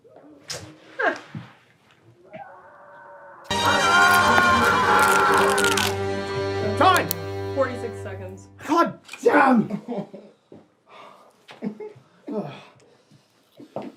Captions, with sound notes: Huh. (Patient Screaming) (Bone Cracking) TIME! Forty-six seconds. God DAMN! (Patient Whimpers)